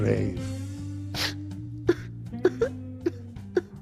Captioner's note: sobs